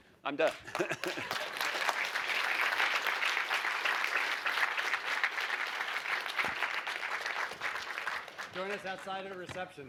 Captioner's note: applause